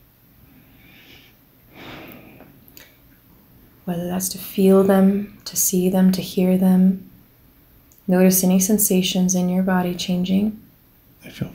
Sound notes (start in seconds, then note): 1.7 exhales